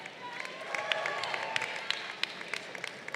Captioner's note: crowd applauding